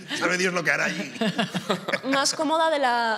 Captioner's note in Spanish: algunos ríen